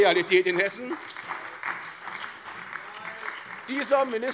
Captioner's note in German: Beifall bei der SPD